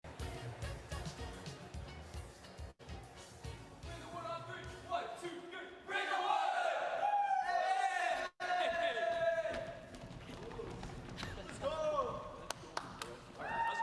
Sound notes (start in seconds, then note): 0.0 upbeat instrumental music; 7.6 group cheers